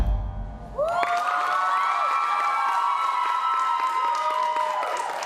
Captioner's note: applause